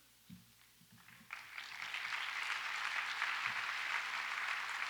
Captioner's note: audience applauds